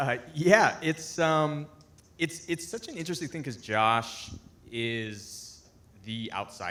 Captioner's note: none